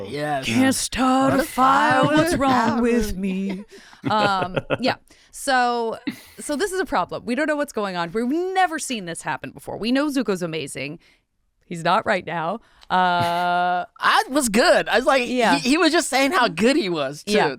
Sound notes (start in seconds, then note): 4.0 laughing